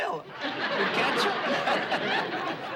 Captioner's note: laughs